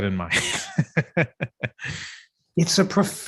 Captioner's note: laughter